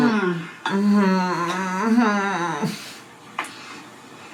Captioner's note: groaning